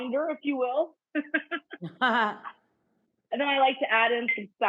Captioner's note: cook and Rachael laughing